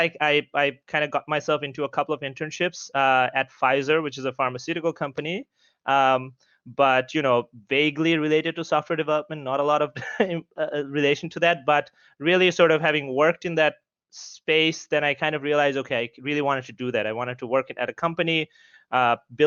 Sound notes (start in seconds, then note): 9.9 giggles